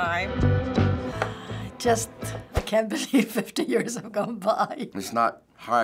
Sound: sighs

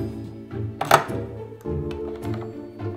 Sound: can opening

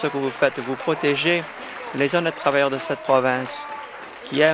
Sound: applause

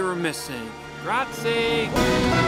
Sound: speaks in Italian; inspirational music

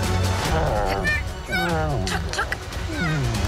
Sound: groans

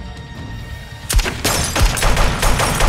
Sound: gunfire

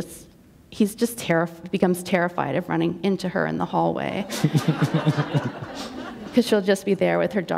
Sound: laughter

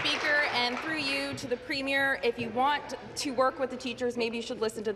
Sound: applause

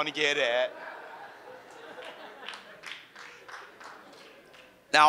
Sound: audience laughs

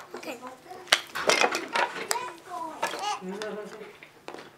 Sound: background chatter

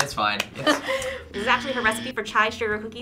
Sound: claps; buzzer

